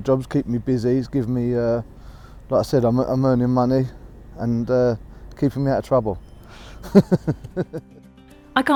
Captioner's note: laughs